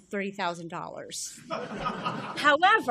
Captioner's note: laughter